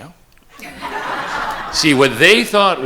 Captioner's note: attendees laughing